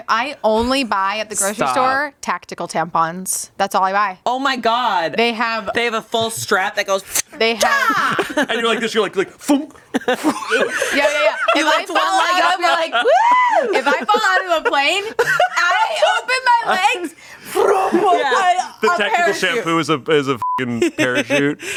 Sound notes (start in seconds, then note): 7.5 yells; 10.0 imitates popping; 20.4 beep